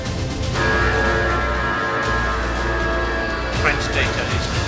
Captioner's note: alarm blaring